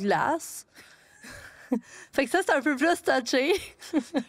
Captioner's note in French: rires